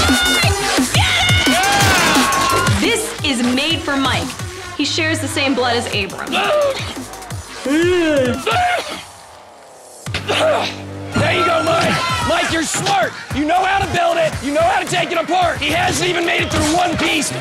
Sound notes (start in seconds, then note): 6.4 growls; 7.5 yelling